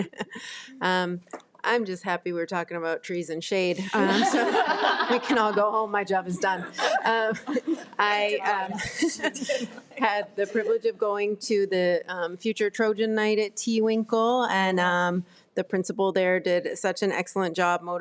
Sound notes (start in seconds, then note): 0.3 laughs; 3.8 trustees laugh